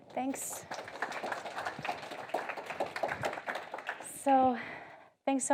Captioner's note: audience applauding